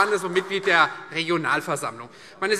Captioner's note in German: Vereinzelter Beifall CDU